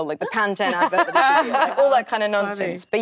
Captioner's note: everyone laughing